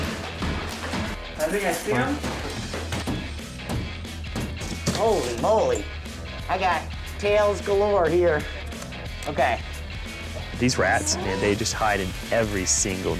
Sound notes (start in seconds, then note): 2.5 thumping